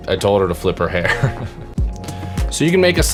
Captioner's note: laughs